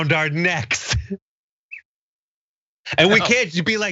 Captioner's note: laugh